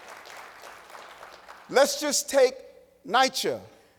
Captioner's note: applause